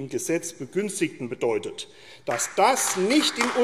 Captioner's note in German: Beifall AfD